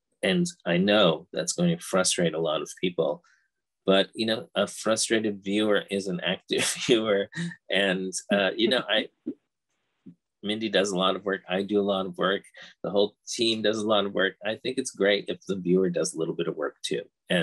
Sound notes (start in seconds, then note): 6.5 both laughing